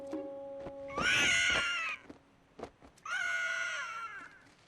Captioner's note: squawking